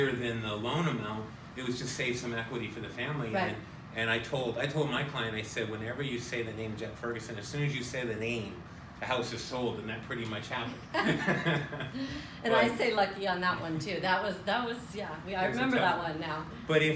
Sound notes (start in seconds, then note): 10.9 both laugh